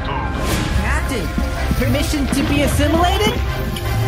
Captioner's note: K'hekk voice